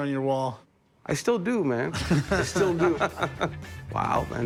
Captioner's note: laughter